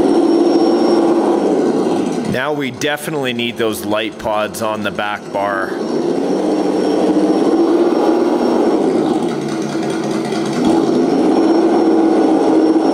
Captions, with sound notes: Now we definitely need those light pods on the back bar. (engine running) (engine throttling)